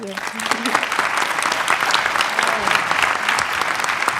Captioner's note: audience clapping